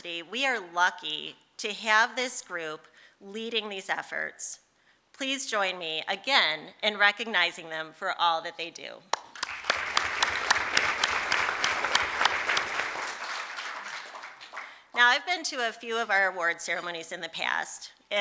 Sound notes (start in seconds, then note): 13.4 applause